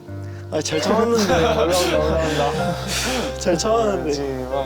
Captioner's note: about to cry